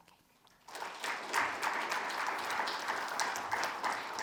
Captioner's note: audience applauds